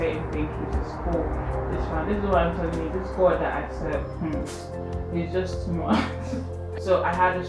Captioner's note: laughs